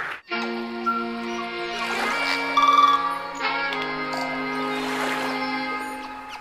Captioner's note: audience applause; funky music; birds chirping